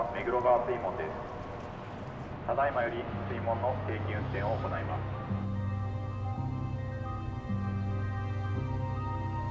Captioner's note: water sloshes